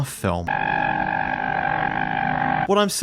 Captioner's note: distorted screaming